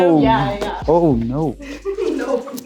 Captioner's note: pat